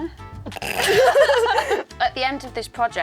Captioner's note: both laugh